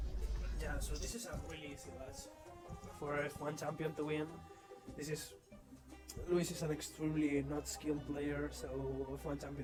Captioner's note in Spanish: sarcasmo